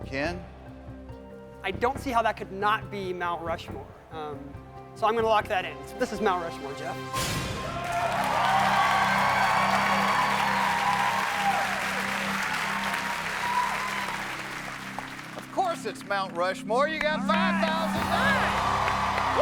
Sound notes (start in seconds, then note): 9.9 cheers and applause